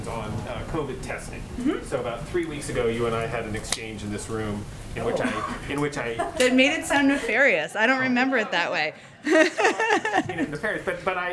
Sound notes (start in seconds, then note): 6.1 laughter; 9.2 laughs